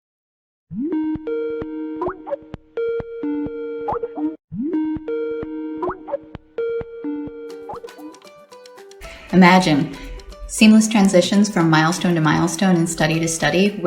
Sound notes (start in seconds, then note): 0.8 video call ring tone